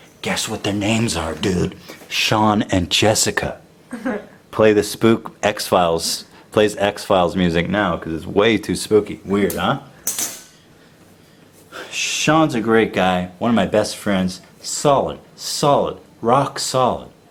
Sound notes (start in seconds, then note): 3.9 laughs